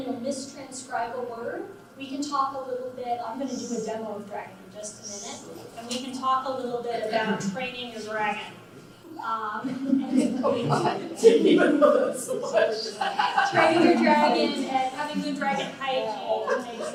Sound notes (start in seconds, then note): 9.6 laughs